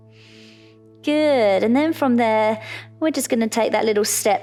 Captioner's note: inhales